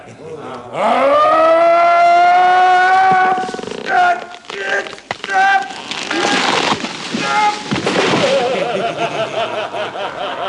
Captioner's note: sound of a tree cracking and breaking